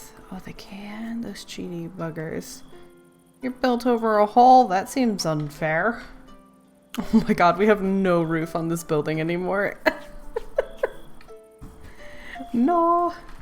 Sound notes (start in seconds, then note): 9.8 laughs